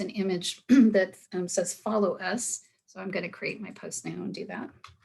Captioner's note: sound of keyboard typing